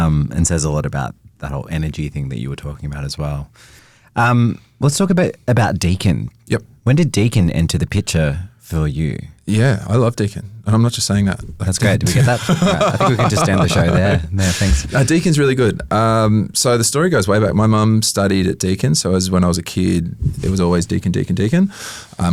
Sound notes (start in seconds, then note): 12.0 laughs